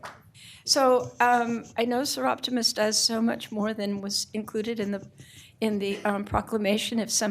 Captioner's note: applauding